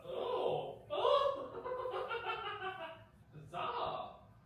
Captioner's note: chuckles